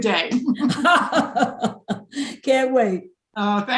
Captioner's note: both laughing